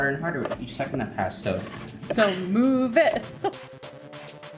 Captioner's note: chuckles; upbeat pop music continues